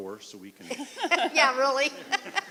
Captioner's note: laughing